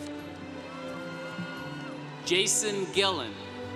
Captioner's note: congregation cheering